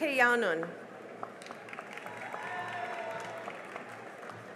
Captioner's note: cheering and applause